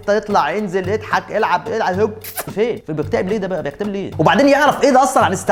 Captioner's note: kissing sound